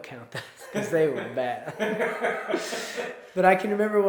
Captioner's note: laughs